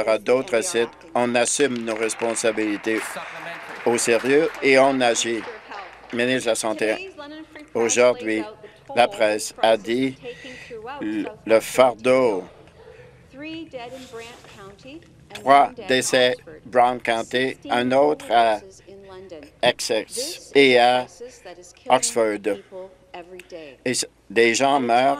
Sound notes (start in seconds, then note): 5.6 applause